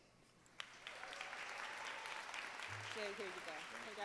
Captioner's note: audience clapping